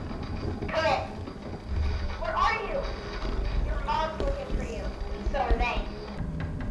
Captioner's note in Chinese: 無線電響了